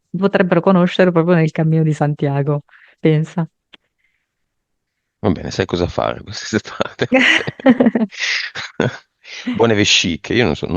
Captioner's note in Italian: risate